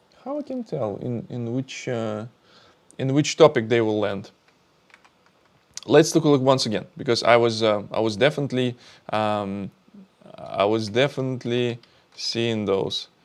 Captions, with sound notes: How I can tell in which, in which topic they will land? (keyboard clicking) Let's take a look once again because I was, I was definitely, I was definitely seeing those.